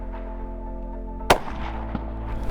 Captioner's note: gunshot